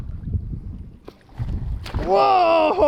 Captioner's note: fish splashes